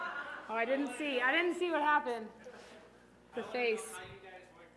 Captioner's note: laughter